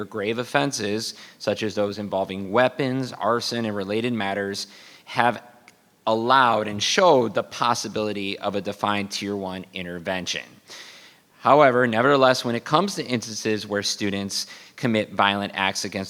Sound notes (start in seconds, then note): none